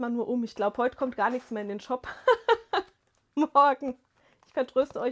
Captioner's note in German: gelächter